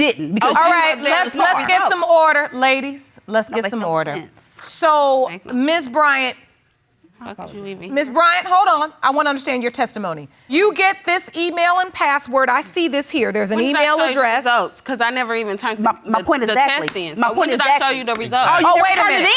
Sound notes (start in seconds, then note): 7.5 mumbling